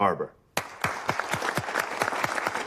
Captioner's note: applause